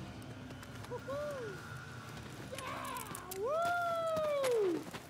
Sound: man whooping and cheering

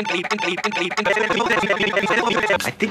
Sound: Steve and Blue's singing chopped up incoherently

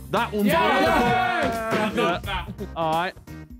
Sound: men cheering

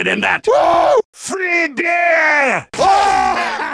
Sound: excited woo

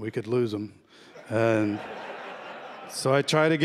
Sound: laughter

